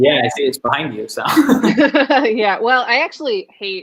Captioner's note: laughing